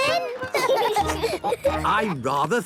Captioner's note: laughing